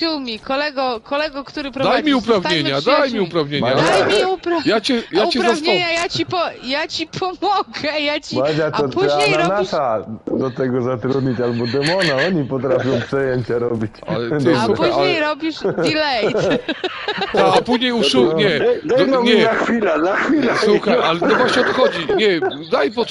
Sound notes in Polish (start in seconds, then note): 15.5 śmiech